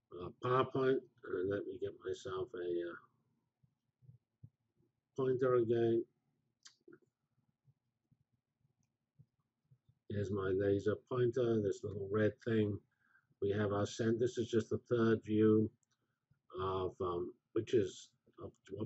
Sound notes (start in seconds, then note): 6.2 pause